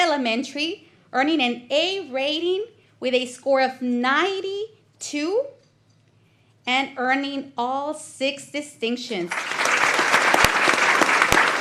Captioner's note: applause